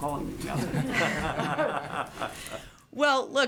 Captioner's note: laughter